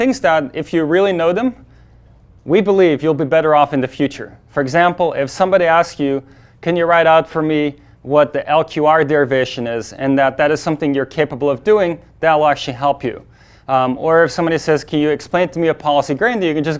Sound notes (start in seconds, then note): none